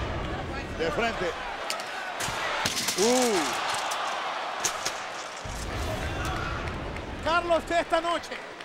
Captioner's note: applause